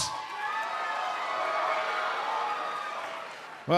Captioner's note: cheers & applause